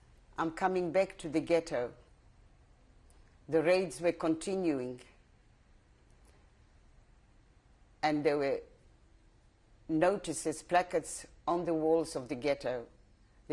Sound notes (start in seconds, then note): 4.8 pauses for 3 seconds